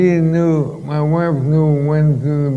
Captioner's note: none